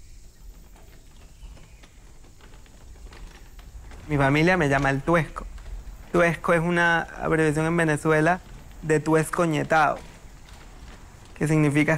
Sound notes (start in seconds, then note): 4.5 speaking in foreign language